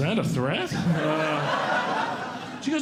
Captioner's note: audience Laughing